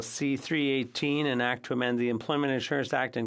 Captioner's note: speaking French